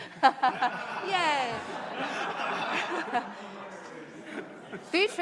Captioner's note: laughter